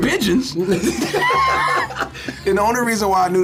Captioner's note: laughs